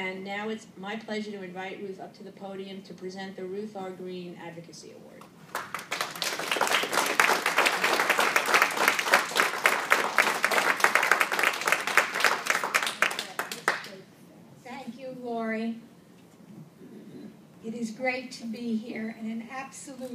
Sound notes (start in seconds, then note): 5.5 applause